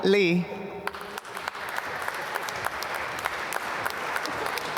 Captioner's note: applause